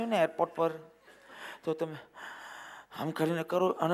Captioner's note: takes a deep breath